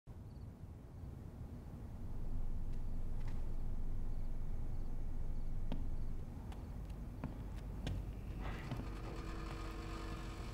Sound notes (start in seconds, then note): 0.2 insects chirping